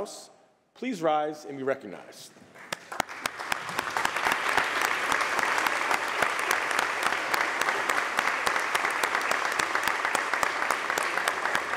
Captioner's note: applause